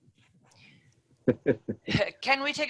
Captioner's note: chuckles